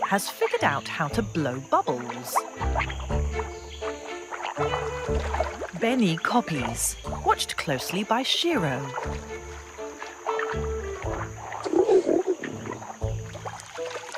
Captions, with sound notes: has figured out how to blow bubbles. (water rustling) Beni copies, watched closely by Shiro. (water rustling) (bright music)